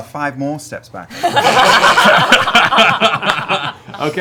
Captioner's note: laughter